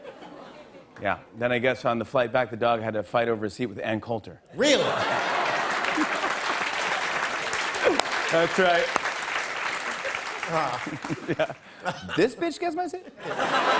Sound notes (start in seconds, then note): 5.0 cheers and applause; 13.0 laughter